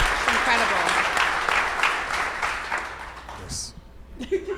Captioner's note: audience applause